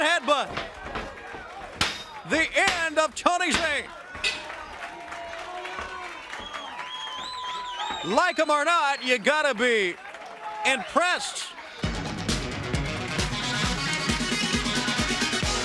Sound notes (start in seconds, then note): 4.9 bell ringing; 8.4 crowd cheering